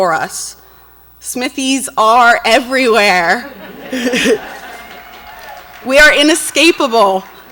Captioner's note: audience laughs and cheers